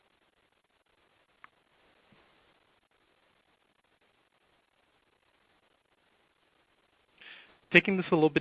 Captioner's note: silence